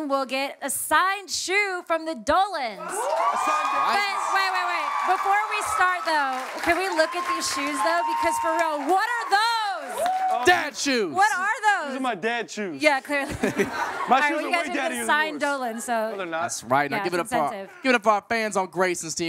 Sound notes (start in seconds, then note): 2.8 cheering, applause; 13.1 laughter